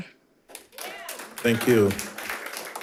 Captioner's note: audience applauding